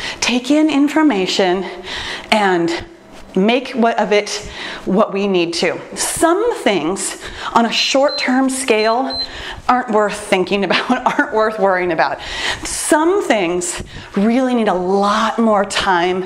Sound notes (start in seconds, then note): 7.9 timer beeps